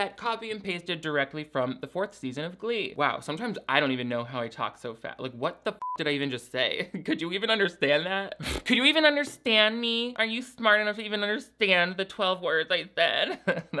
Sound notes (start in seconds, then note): 5.8 beep